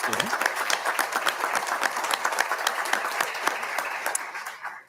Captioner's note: audience applauding